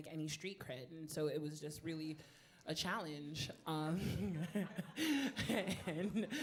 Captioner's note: laughing